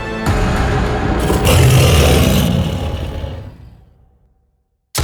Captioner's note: beast growls; intense music; beast growls